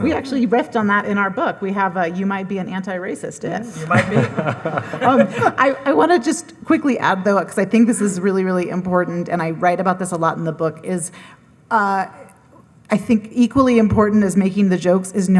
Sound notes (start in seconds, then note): 3.7 laughing; 3.7 audience laughing